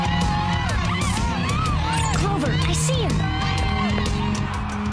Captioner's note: cheering